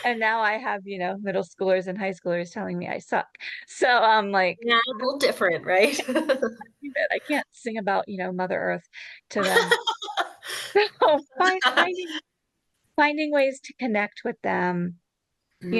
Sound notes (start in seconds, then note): 5.8 laughs; 9.4 laughs